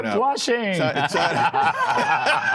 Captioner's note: laughter